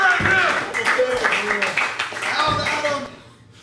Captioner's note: applause